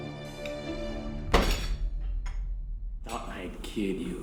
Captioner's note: foot slamming